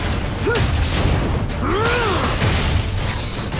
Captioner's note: grunts and sharp cries